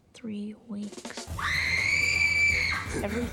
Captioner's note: screaming